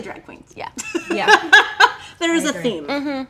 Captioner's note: laughing